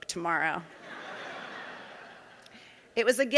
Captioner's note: audience laughing